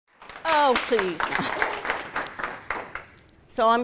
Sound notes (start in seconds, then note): 0.1 applause